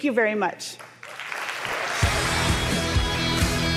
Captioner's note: applause